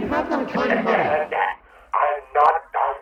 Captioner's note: stammering